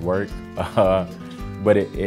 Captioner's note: laughs